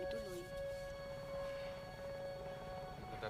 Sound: sighs

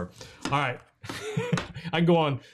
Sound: laughs

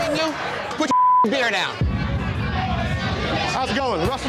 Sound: beep

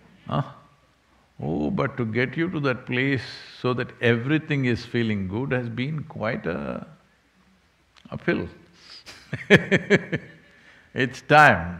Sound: laughs

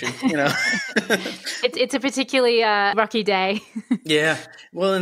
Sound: laughter

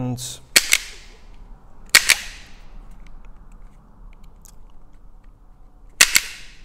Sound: wire cutter snapping

